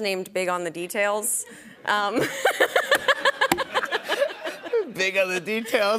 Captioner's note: laughter